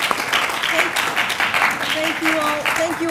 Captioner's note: applause